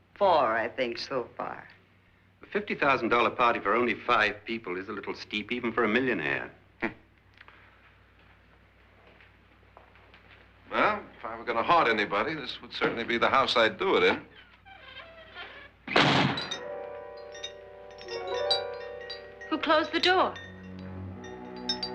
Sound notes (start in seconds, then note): 14.1 door creaking; 16.0 glass jingling